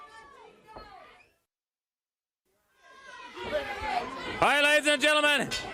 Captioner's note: crowd chatter